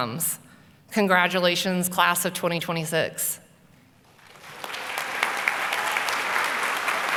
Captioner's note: applause